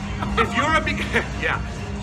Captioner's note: lu=aughter